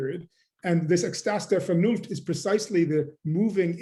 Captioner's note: german